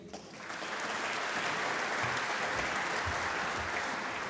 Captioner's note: applause